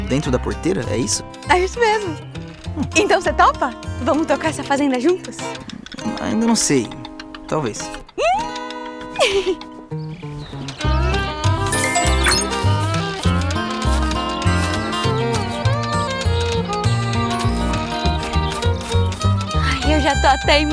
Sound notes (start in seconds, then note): 6.9 Dininha laughs; 11.7 notification